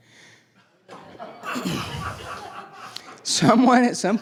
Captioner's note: laughing